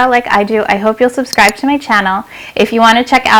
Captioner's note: mouse click